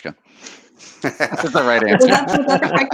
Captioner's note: laughing